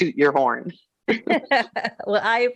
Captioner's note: laughing